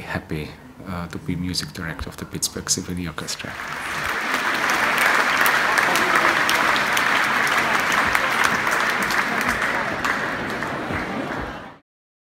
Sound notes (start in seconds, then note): 3.3 audience applauding; 9.3 crowd murmuring